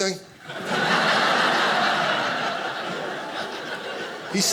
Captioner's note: audience laughing